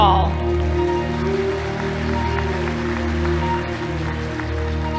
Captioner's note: audience applauding